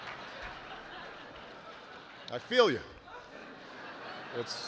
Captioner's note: laughter